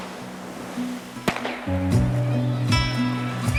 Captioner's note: gun pops